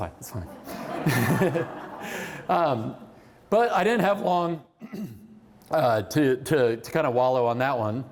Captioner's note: laughter